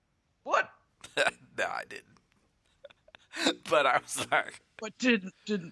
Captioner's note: laughs